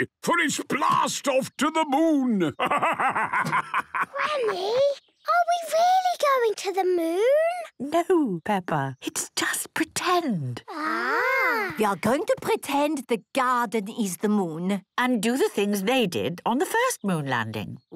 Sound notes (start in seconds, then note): 3.8 whispers